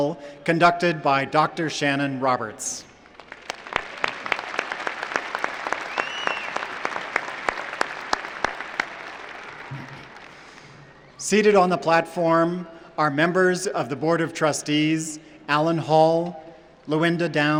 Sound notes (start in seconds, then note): 3.0 applause